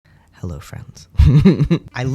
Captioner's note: laugh